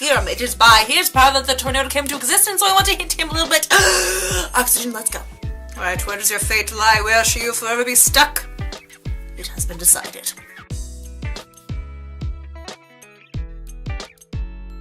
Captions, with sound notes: It is by his power that the tornado came into existence So I want to hint at him a little bit *gasp* Oxygen. Let's go. Alright, where does your fate lie? Where shall you forever be stuck?! It has been decided